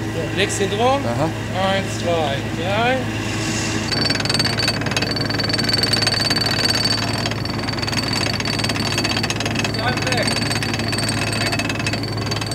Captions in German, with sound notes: So, legst sie drum, eins, zwei, drei. (Motorengeräusch) (Metallisches Rattern)